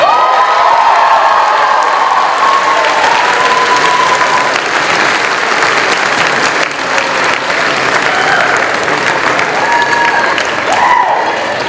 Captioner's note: applause